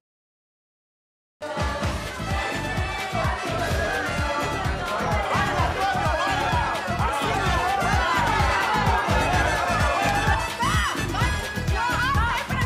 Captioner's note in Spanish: conversaciones